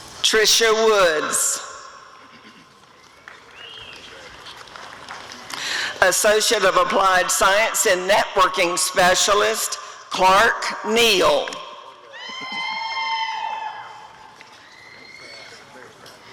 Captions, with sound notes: Trisha Woods [applause and cheering] Associate of Applied Science in Networking Specialist— Clark Neal [audience cheering]